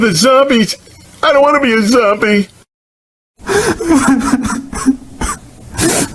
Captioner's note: crying